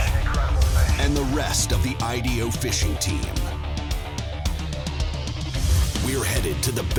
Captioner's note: voiceover